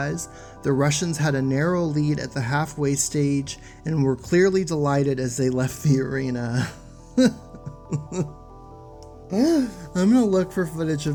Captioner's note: laughs